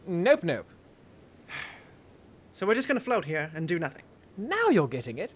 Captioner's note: sigh